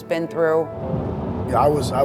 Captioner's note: wind blowing